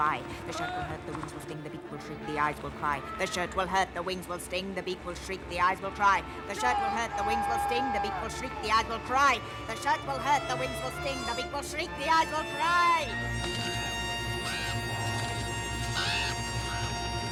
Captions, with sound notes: "THE SHIRT WILL HURT, THE WINGS WILL STING, "THE BEAK WILL SHRIEK, THE EYES WILL CRY. "THE SHIRT WILL HURT, THE WINGS WILL STING..." CHILDREN! "...THE BEAK WILL SHRIEK, THE EYES WILL CRY! "THE SHIRT WILL HURT, THE WINGS WILL STING, "THE BEAK WILL SHRIEK, THE EYES WILL CRY!" [ravens squawking]